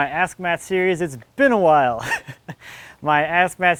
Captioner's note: laughs